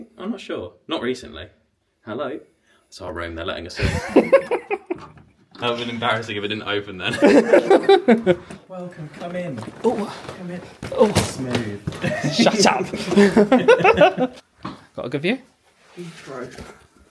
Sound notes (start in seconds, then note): 12.0 laughs